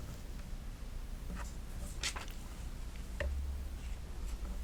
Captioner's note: light clattering